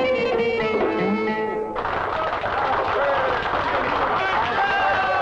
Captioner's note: customers applaud and cheer